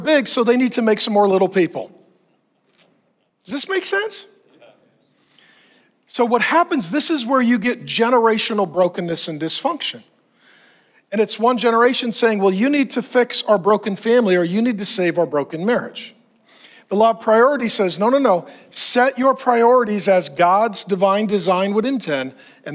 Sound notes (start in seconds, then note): 4.4 congregants murmuring